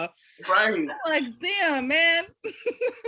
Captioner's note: laughing